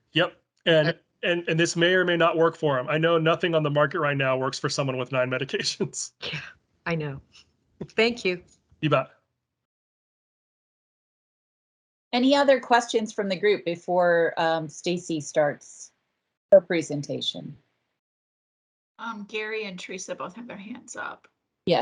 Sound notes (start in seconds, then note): 6.3 chuckles